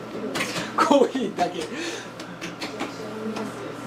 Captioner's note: laughs